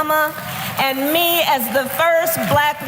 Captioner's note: applause